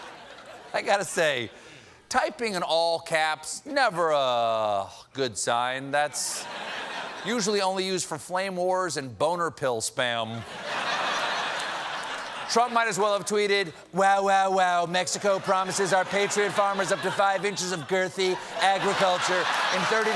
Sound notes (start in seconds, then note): 10.4 laughter